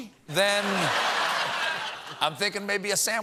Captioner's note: laughter